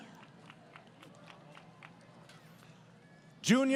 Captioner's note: applause